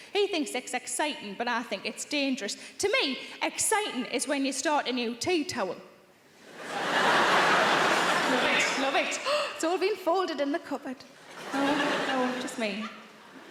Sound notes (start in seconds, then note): 6.4 audience laughs